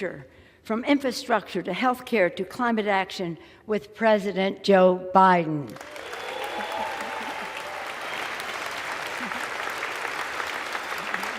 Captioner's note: applause